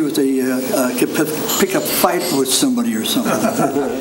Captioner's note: group laughing